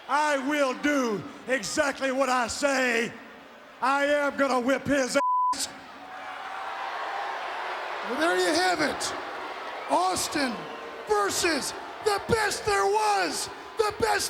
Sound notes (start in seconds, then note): 5.2 beep; 6.6 audience cheers